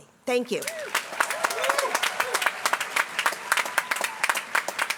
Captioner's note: applause